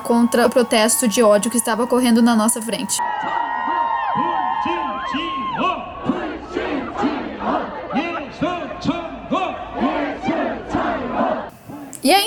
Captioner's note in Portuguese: Aplausos